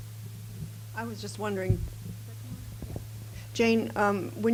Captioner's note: voiceover